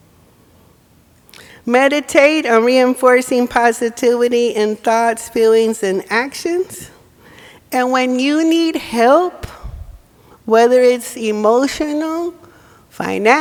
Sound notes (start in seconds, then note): none